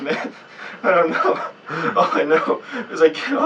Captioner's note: chucking